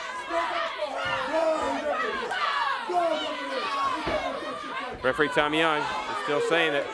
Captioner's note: crowd cheers